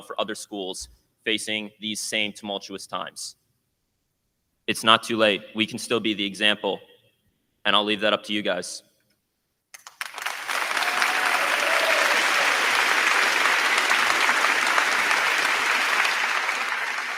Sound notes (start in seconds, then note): 9.7 crowd clapping; 10.0 crowd cheering